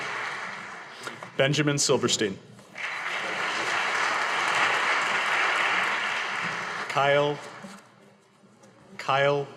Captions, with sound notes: Benjamin Silverstein. (audience applauding) Kyle Wilkenson.